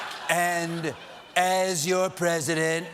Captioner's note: laughter